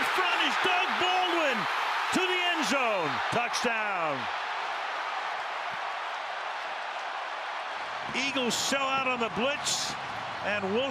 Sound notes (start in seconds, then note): 4.4 cheering